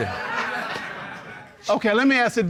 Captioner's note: audience laughing